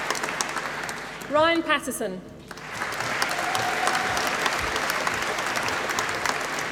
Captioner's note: applause